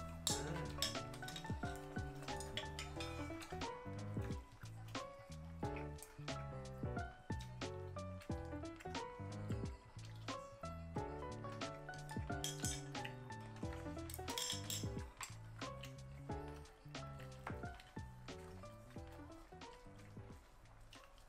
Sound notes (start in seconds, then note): 8.3 eating like crazy